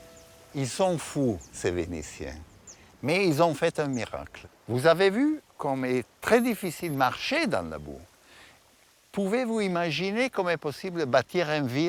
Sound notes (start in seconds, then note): 0.6 speaking in foreign language